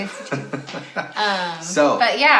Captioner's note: laughs